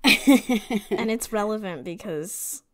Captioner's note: laughs